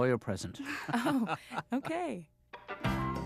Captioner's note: laughs